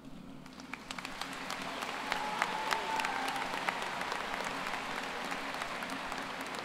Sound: applause

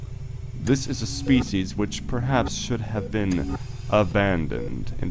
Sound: mechanical ambiance

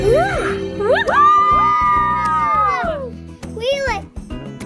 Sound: magical whoosh; all cheering

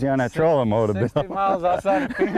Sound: laughter

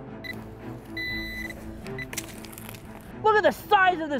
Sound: suspenseful music; beeping

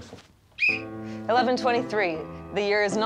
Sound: whistle blows

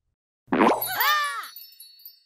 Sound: all scream

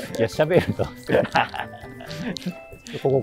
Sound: laughing

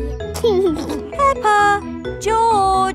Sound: giggling

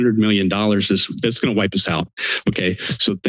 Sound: inhales

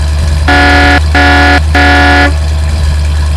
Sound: honk honk honk

